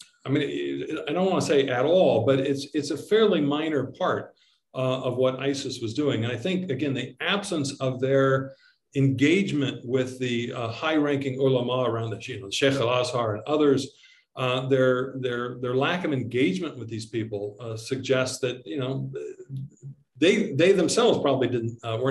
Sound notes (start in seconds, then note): 12.3 speaking in foreign language